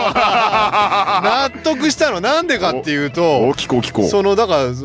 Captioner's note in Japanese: 笑い